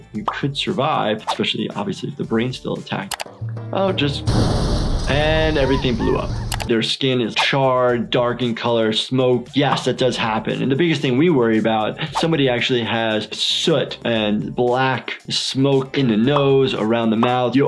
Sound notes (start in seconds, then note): 4.2 building exploding; 5.4 animals screaming